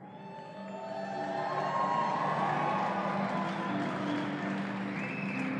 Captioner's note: audience cheering